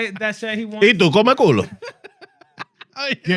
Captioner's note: laughing; speaking In Foreign Language